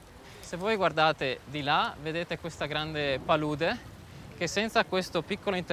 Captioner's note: speaking in foreign language